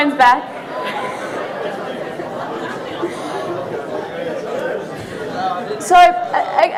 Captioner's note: audience laughing